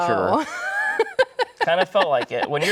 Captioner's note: laughing